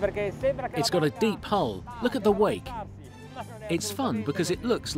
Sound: voiceover

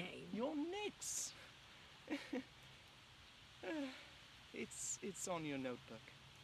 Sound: laughs

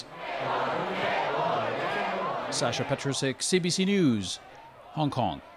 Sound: chanting

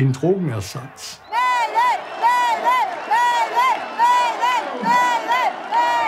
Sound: yells

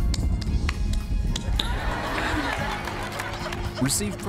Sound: hands clapping; laughter

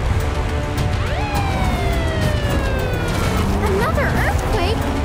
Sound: earthquake rumbling; ominous music; siren wailing; engines revving

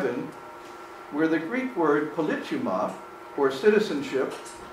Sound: speaking in foreign language

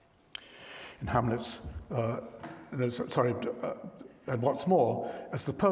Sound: stammers

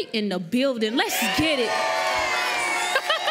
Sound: audience cheers; laughter

